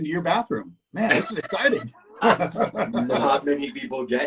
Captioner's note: laughing